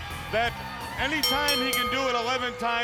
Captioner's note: bell ringing